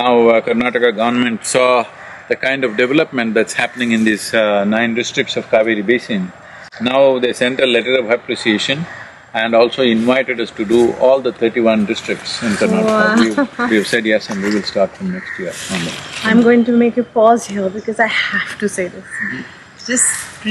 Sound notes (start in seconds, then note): 14.1 laughs